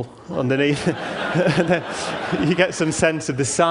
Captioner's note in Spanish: Risas